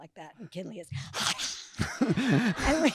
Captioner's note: hissing; audience laughing